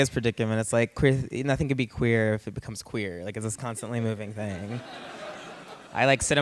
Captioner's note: laughter